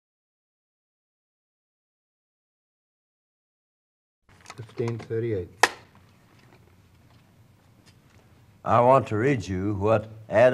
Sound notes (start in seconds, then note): 5.6 clap